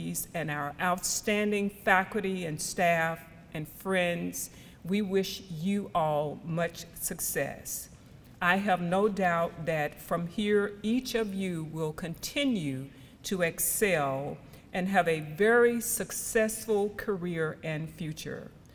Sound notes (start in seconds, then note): none